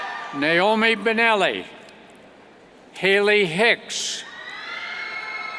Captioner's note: cheers; cheers